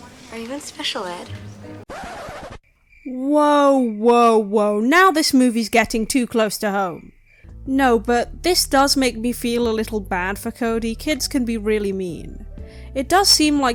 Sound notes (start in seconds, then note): 1.8 record scratch